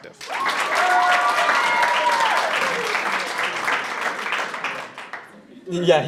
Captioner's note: audience cheers loudly and applauds